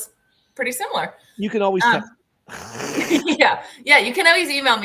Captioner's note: laughter